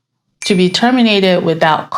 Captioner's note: bell dings